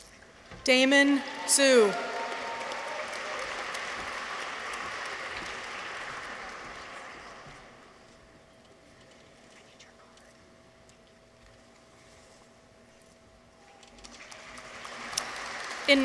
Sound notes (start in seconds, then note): 3.2 audience applauds; 3.2 people cheer; 14.1 audience applauds